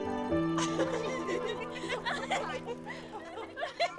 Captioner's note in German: lachen